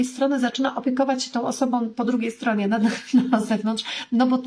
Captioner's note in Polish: śmiech